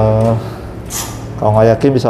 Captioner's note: iron ruler noise